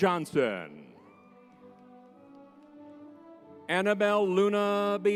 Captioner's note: crowd cheers